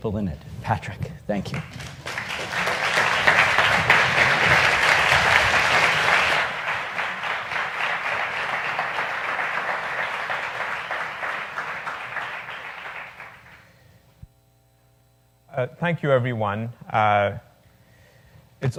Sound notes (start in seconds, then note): 1.5 applause